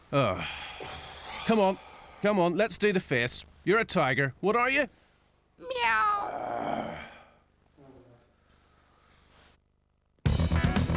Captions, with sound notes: [Sighs] Come on, come on, let's do the face. You're a tiger, what are you? Meow! [Groans]